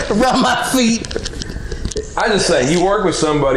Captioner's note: laughing